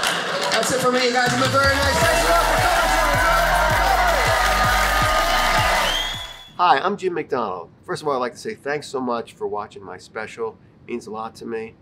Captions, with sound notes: That's it for me, you guys have been very nice. Thanks a lot for coming to Dry Bar comedy. (audience cheers)